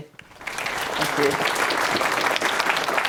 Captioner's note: applause